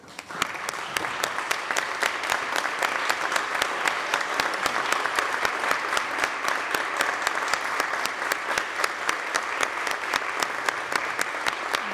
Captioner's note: applause